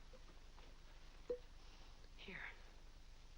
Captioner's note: corks pops